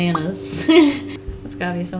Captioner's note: laughs